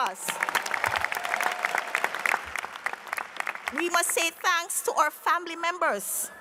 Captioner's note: applause